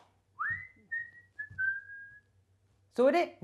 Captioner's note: whistling